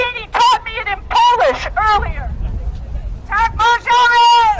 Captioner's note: shouting